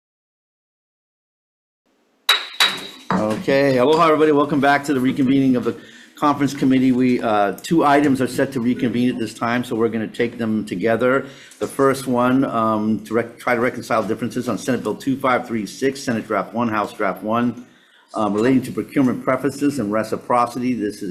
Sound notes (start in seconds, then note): 2.3 gavel banging